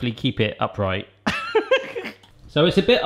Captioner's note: laughs